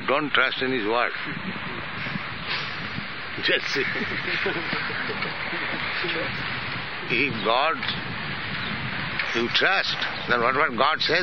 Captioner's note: laughs